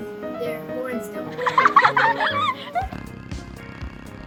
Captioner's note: children laughing; bulldog snoring; fun music